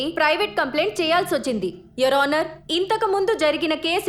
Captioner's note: none